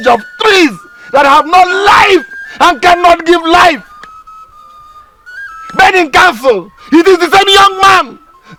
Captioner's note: screaming